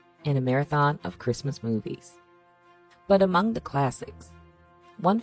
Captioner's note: voiceover